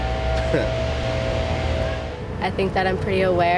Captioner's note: student 3 chuckles